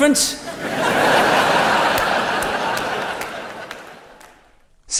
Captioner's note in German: publikum lachen